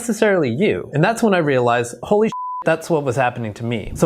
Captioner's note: beep